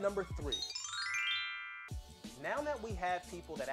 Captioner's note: magical chiming